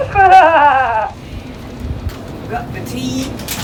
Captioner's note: laughs